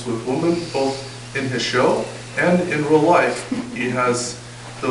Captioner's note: audience chuckle